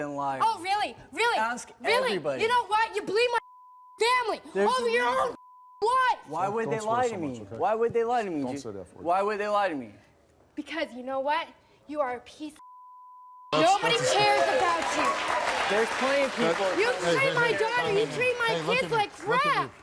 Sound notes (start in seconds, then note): 3.4 beep; 5.3 beep; 12.6 beep